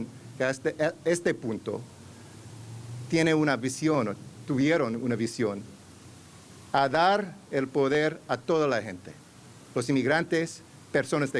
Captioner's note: remarks in spanish